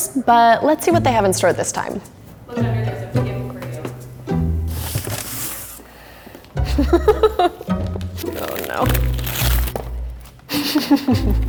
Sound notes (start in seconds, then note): 6.6 laughs